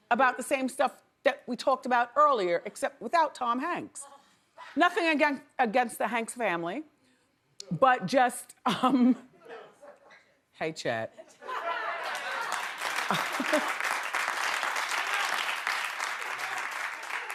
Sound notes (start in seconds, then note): 8.7 giggles; 11.8 audience applauds